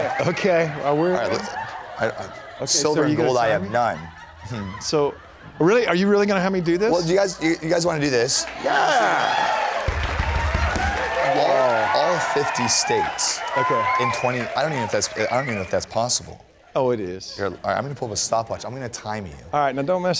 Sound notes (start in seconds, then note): 9.0 applause; 9.8 drum roll